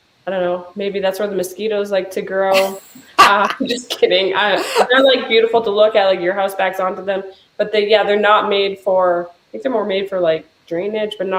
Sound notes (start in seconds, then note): 2.5 laughing